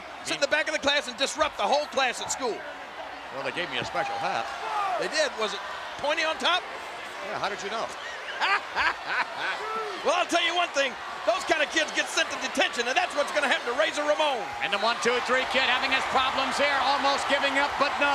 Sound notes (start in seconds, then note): 8.2 laugh